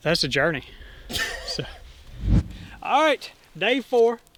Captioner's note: laughs